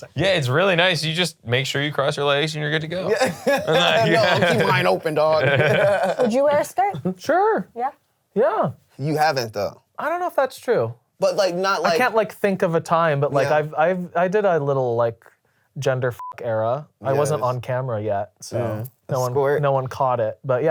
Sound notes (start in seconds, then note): 3.0 laughs; 16.2 beep